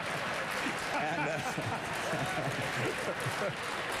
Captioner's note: applause